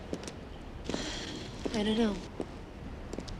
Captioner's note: exhales